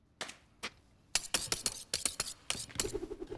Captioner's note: knives being sharpened